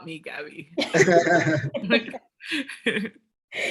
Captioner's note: laughing